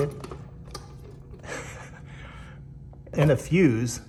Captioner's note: laughs